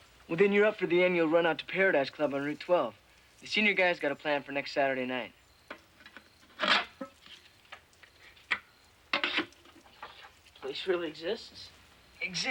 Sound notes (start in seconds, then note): 6.5 metal clanks